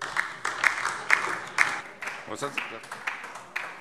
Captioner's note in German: Beifall DIE LINKE